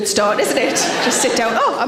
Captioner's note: audience laughs